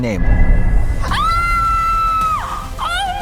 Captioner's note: screams